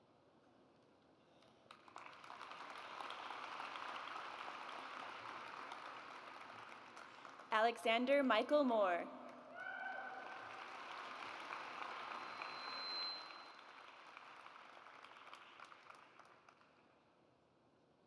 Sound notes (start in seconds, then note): 1.6 audience applauds; 9.5 audience applauds